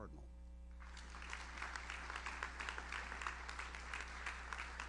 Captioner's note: audience applauds